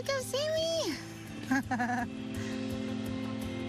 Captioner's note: laughs